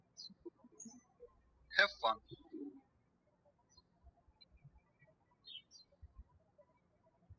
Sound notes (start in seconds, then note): 1.6 birds chirping; 4.2 birds chirping